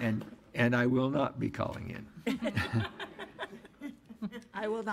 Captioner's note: laughs